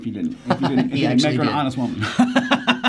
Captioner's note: laughs